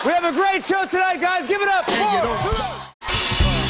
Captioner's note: cheers and applause